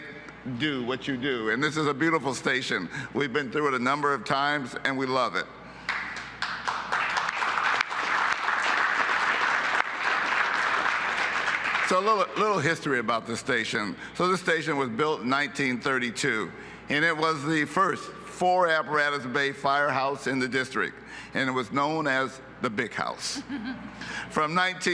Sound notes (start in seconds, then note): 11.4 applause